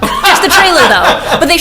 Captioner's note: Zach laughing